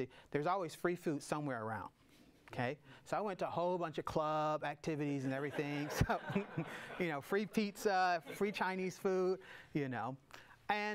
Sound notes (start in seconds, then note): 5.4 audience laughs; 5.5 laughing